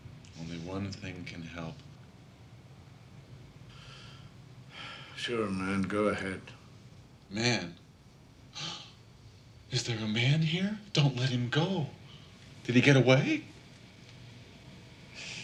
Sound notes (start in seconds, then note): 3.3 sighs; 9.0 scoffs